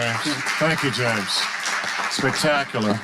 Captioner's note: audience applauding